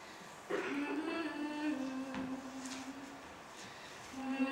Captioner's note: humming a Catholic hymn